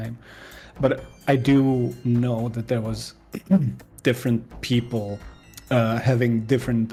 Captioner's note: clears throat